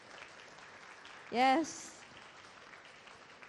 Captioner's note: applause